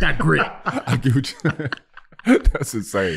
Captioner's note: laughing